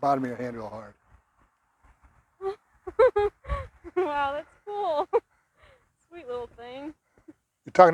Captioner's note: laughs excitedly